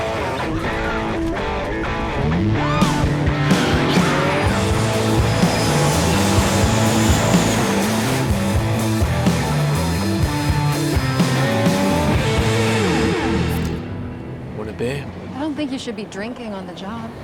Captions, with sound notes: [YELPING] Want a beer? I don't think you should be drinking on the job.